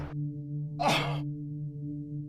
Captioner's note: cough